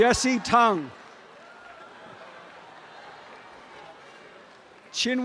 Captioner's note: audience cheering and applause